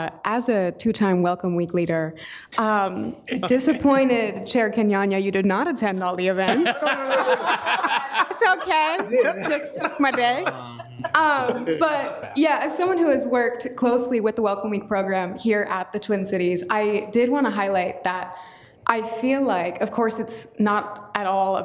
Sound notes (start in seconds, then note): 6.3 all laughing